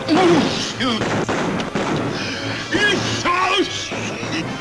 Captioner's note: Barney groans